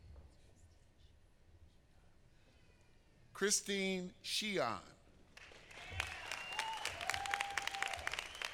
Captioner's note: applause